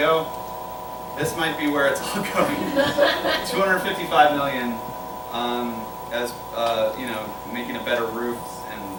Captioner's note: laughter